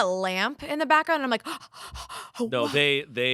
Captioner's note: gasps